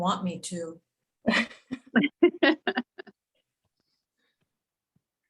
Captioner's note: females laughing